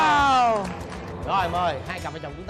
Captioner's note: applause